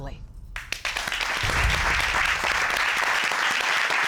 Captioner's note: applause